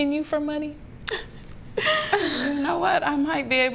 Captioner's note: chuckles